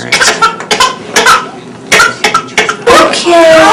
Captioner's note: baby crying